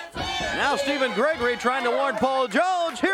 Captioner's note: crowd chatter